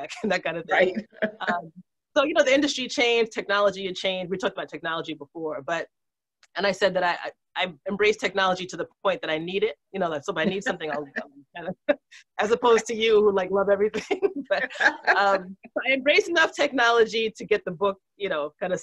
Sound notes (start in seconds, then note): 14.4 laughs